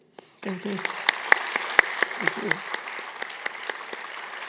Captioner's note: applause